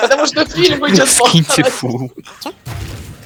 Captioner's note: laughs